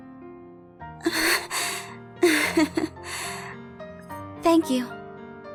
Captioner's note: giggle